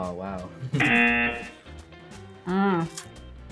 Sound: buzzer rings

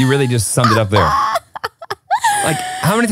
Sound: laughing

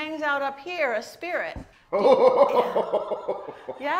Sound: laughing

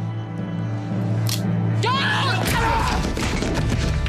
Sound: screams

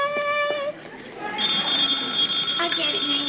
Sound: blows air; ring

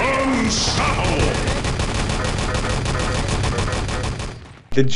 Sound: machine gun fire

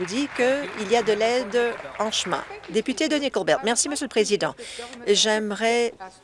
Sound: some applause

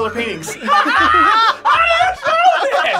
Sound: both laugh

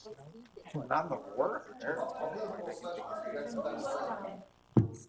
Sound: talking in unison

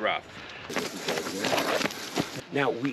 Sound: swishing of running

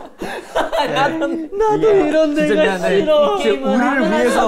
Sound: crying out loud

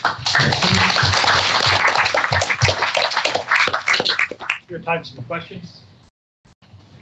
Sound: applause

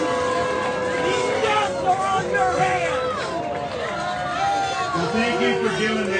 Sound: applause

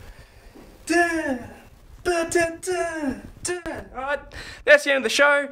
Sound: Wes humming

